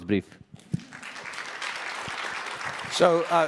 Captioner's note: applause